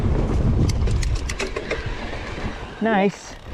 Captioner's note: bike rattles